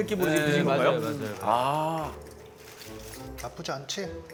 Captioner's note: crunch, crunch